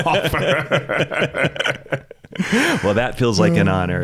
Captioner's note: laughs